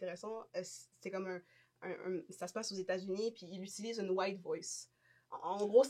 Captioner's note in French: white voice